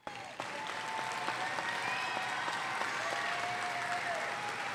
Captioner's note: audience applauding